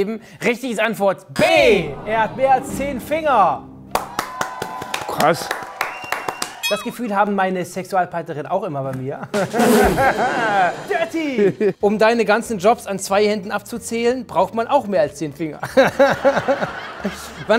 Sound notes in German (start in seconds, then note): 3.9 Jubel; 15.7 Lachen